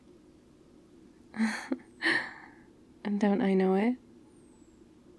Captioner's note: laughs